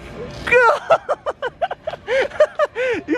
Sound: laughing

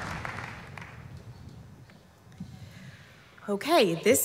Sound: applause

